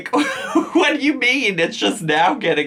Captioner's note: laughs